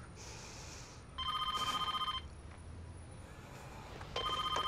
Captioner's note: phone rings